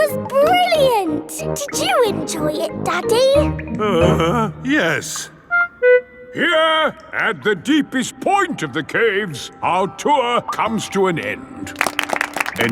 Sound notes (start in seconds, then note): 3.7 groans